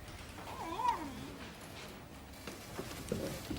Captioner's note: griffin growls; dog whimpers